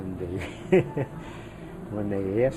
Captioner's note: laughs